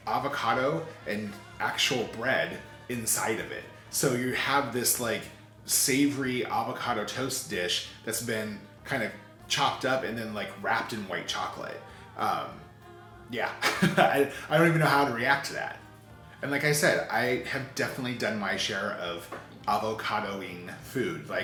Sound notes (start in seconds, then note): 13.5 chuckles